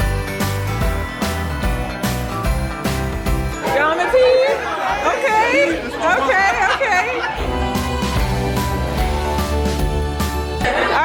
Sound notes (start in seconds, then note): 7.2 guest laughs; 7.6 bright cheerful music continues